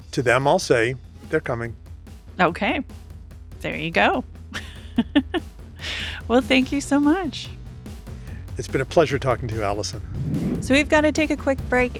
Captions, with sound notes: To them I'll say they're coming. - Okay, there you go (laughs). Well, thank you so much. - It's been a pleasure talking to you, Allison. (air whooshing) - So we've gotta take a quick break